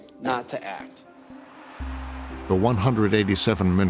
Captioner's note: crowd cheering